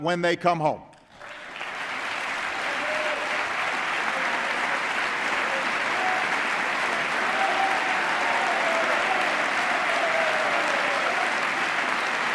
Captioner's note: applause